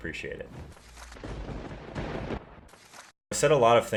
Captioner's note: thunder rumbling